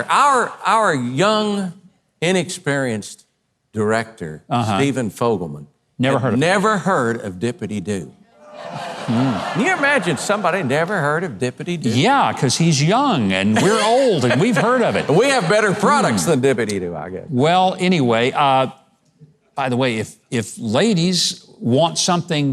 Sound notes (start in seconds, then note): 8.4 audience groans